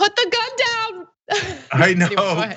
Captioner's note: laugh